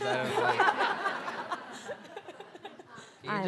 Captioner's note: audience laughing